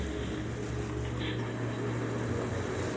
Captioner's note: recording playback